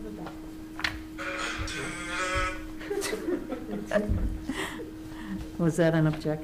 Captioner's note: committee members chuckling